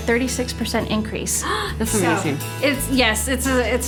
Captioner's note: gasping